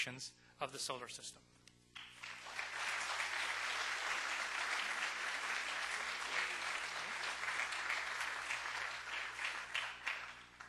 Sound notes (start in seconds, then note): 2.0 audience applauding